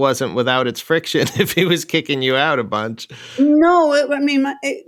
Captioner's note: laughter